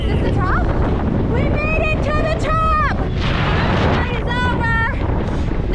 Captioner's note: yelling